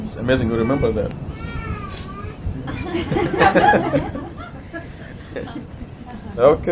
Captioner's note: Gülüşmeler